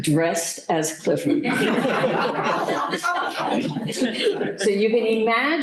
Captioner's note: laughter